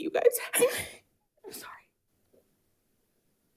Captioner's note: sobs